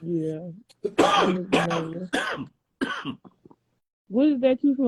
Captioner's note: coughing